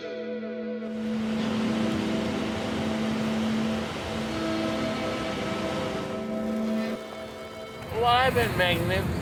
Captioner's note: ocean Waves Sound